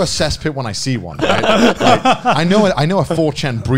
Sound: laughing

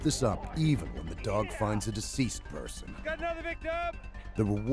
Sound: voiceover

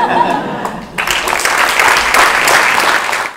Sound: applause

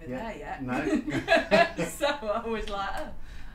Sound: both laughing

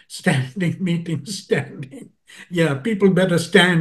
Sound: laugh

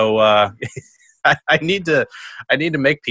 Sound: chuckles

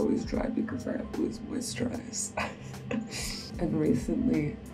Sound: chuckles

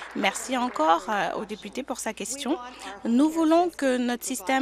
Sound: applause

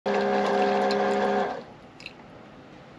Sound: buzzing

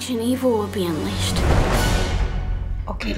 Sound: lightening cracks

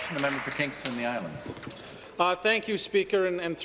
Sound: applause

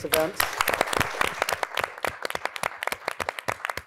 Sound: audience applauds

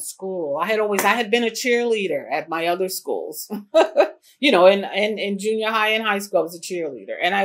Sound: laughs

